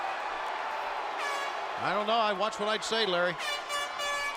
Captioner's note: crowd cheering